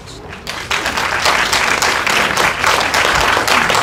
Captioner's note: applause